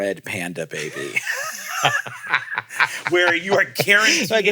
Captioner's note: laugh